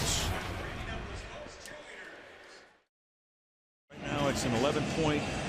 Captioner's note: pa announcement